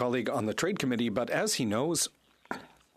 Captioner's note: speaking French